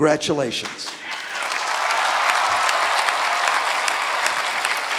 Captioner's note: cheering